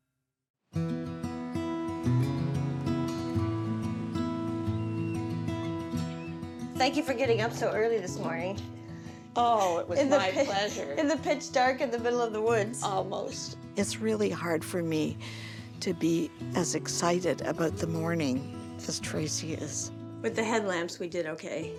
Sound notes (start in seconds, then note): 1.5 peaceful music; 1.5 seabirds crying